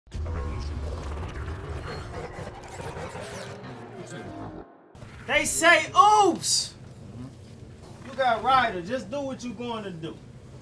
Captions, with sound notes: (electronic whooshes) - They say Ooops! You got Ryda, just do what you goin' to do.